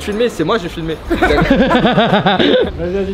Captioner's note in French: rires